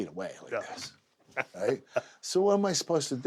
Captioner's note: laugh